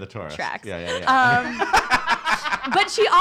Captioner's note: laugh